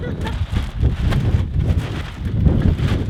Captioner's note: laughs